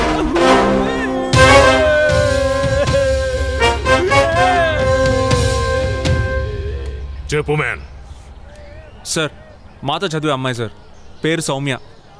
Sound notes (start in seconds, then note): 2.6 crying